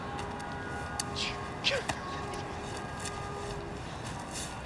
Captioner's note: boy laughs